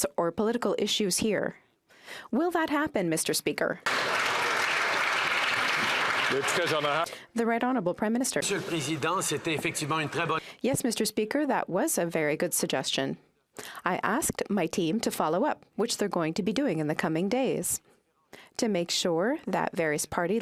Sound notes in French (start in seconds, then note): 8.7 applaudissements